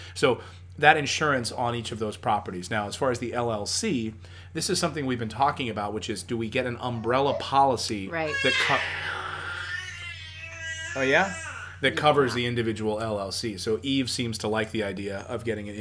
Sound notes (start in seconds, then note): 8.0 baby crying